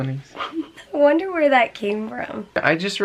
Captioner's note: giggling